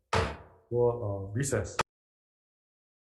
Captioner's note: hammer thud